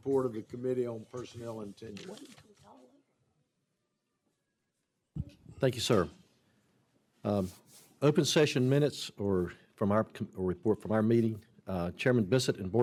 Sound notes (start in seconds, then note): 0.8 off mic